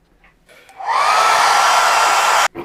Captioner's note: screeching